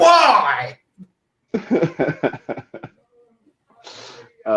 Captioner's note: laughing